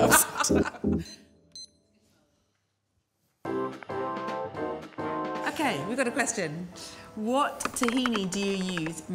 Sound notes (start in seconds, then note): 0.9 timer beeps; 3.5 upbeat music plays